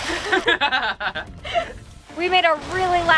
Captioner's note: laughs